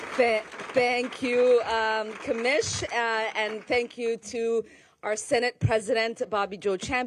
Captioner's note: applause